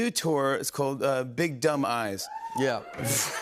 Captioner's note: audience member cheers; chuckles